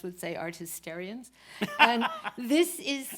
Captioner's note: laughs